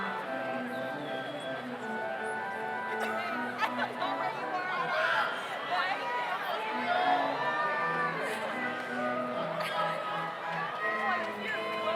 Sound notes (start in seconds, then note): 0.0 slow organ music continues; 6.0 overlapping chattering; 6.0 slow organ music continues